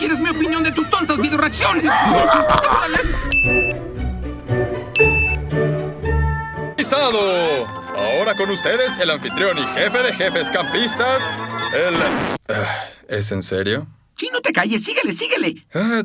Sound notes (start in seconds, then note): 12.4 sighs